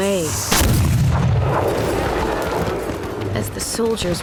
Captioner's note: cannon blast